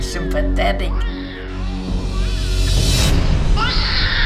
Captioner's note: baby crying